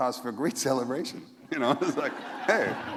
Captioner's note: laughter